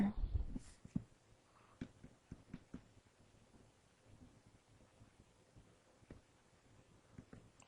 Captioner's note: silence